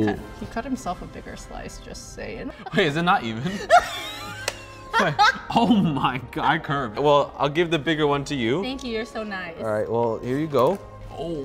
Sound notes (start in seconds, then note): 0.0 laugh; 3.4 laughs